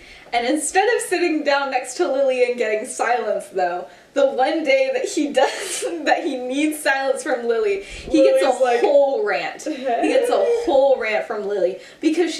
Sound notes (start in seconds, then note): 7.9 giggles